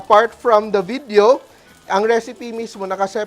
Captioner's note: sizzles